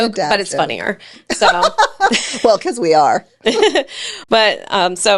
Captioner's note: laughs